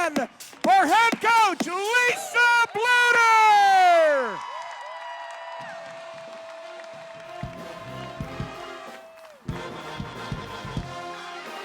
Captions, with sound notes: for head coach Lisa Bluder. (crowd cheering) (upbeat music)